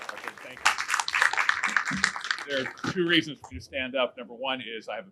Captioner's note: applause